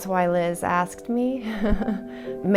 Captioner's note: giggling nervously